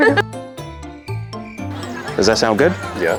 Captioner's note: crickets